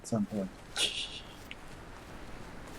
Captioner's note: laughs softly